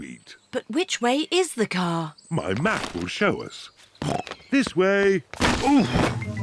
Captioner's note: snorts